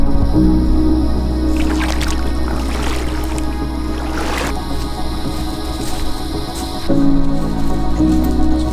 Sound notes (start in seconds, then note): 1.4 water splashing